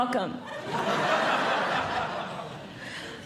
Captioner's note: audience Laughing